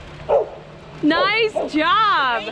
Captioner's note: dog barking